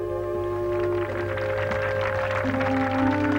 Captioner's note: applause